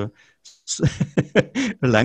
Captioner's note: he giggles